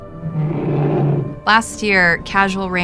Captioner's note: roaring